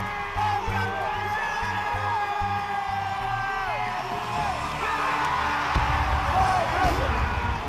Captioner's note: cheering